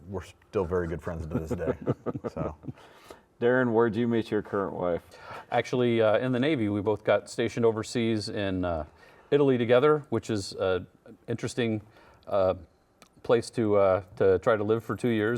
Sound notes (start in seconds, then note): 1.2 laughing